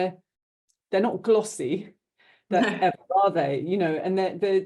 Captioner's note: both chuckling